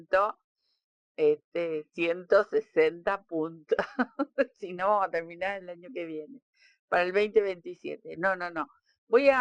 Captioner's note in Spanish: risas